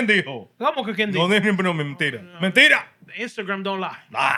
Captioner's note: speaking Spanish